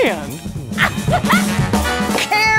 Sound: laughs

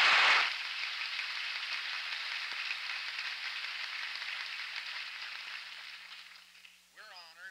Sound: applause

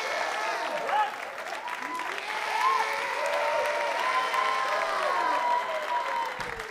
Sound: cheers and applause

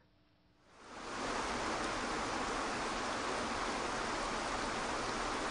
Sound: soothing water falling

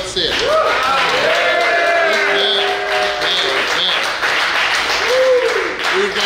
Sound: cheering & Clapping

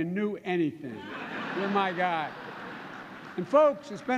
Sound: laughter

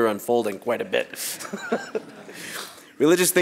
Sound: laughs

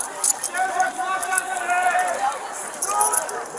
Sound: hollering

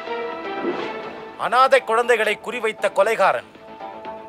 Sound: TV news

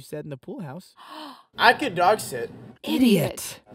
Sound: gasp

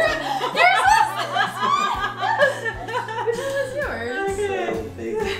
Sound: laughter

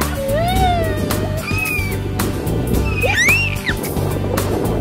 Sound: yelling

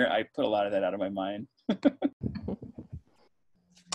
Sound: laughs

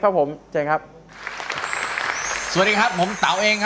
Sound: applause

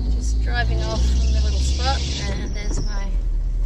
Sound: none

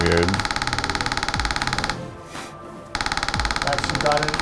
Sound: machine clicking

